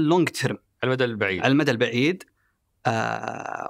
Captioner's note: in Arabic